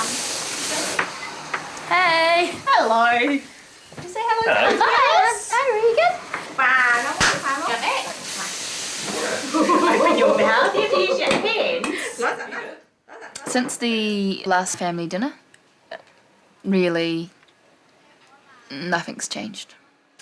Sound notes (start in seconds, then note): 9.5 Alice's Mom laughs; 13.0 group laughs